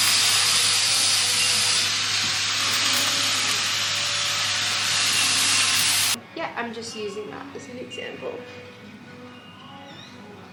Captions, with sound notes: [power tool whirling in the background] Yeah, I'm just using that as an example.